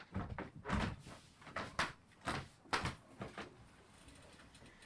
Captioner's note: footsteps creak